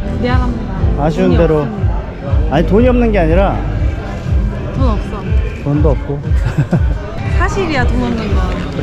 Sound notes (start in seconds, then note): 6.3 laughing out loud